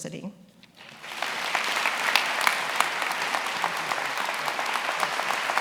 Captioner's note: attendees applauding